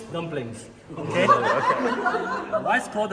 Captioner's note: everyone laughs